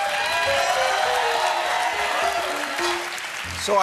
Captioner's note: cheers and applause; piano riff